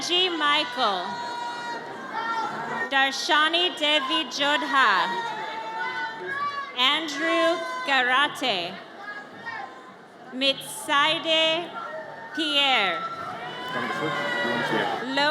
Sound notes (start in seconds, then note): 1.9 audience cheers; 13.9 audience cheers